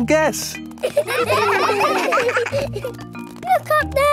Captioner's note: children laughing